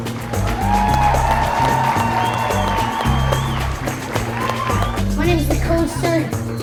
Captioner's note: audience cheering and applauding